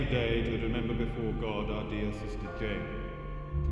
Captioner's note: bell tolls